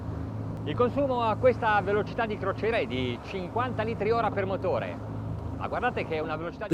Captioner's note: speaking in foreign language